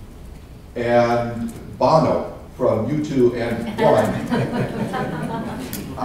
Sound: laughter

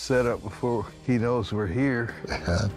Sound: laughs

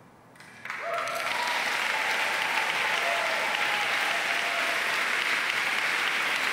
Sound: audience applauding joyfully

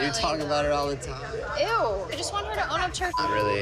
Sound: beep

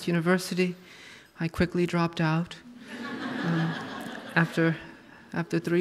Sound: audience laughs

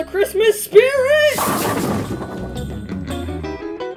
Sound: crash!

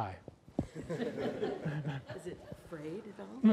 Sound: laughter

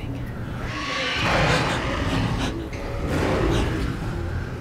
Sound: loud werewolf growl

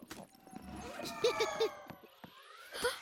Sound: ref whirring

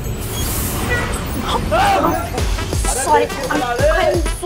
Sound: bus sound

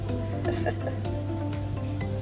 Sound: laughes

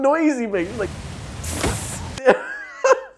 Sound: hissing noise

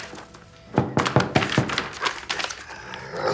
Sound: knock on the door

